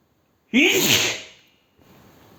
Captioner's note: sneeze